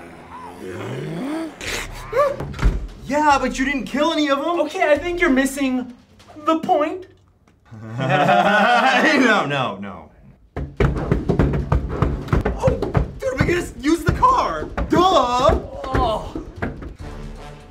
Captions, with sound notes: Yeah, but you didn't kill any of them. Okay, I think you're missing "the point". (both chuckle) -No, no, no. (repetitive pounding on door) Oh! Dude, we could just use the car! Duh!